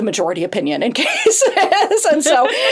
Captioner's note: laughs